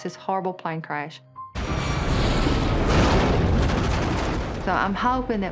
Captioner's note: jarring rumbling